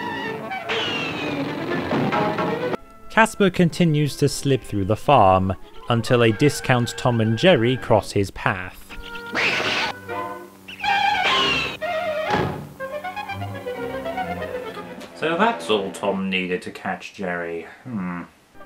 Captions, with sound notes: Casper continues to slip through the farm until a discount Tom and Jerry crosses his path. [cat screeches] So THAT’S all Tom needed to catch Jerry. Hmm...